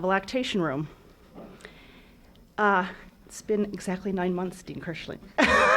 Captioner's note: laughs